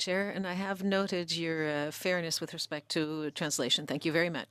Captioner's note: speaking French